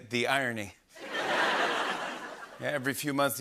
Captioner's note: laughter